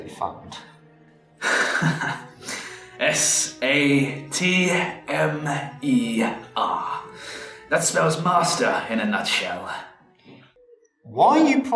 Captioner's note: chuckles